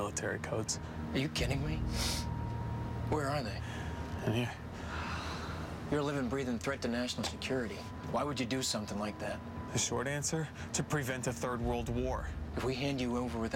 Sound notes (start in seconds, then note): 1.9 sniffs; 4.8 sighs